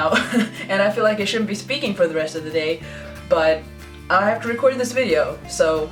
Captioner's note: laughs